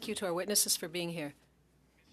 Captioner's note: speaking French